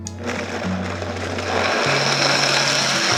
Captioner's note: blender whirring